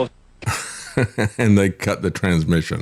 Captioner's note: laughing